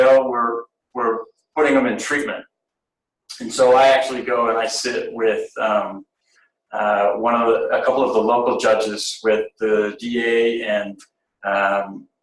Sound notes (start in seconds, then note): none